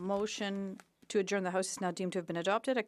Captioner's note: speaking French